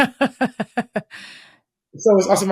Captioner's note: laughs